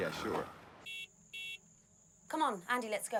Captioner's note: car horn beeping